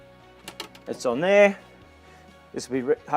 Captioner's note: hose clatters